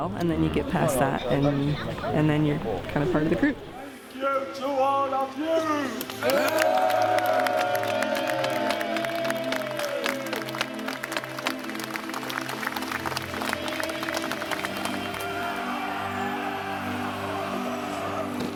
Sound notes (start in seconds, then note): 6.4 cheering; 15.2 shouting